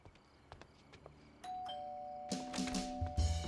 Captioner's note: crickets chirping; doorbell ringing; upbeat jazz music